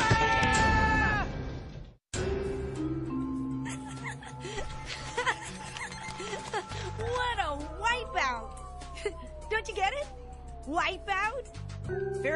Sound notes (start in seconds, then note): 3.6 laughing